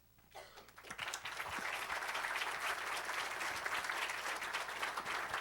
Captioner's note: applause